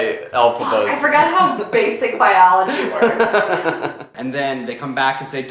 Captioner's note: laughing